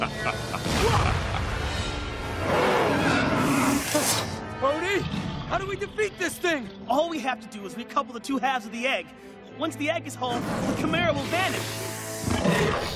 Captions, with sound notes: (Cronus laughing) (Roaring) Odie, how do we defeat this thing? All we have to do is re-couple the two halves of the egg. Once the egg is whole, the chimera will vanish.